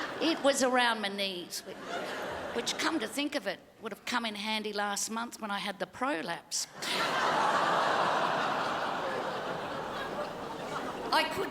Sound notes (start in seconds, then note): 6.8 crowd laughs and groans